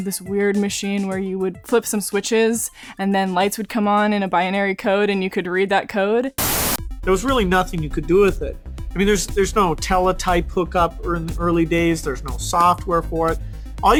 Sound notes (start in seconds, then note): 6.4 static